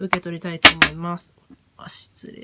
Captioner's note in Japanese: ストーン落下